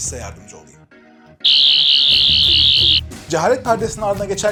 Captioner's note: Sonic Screwdriver whirring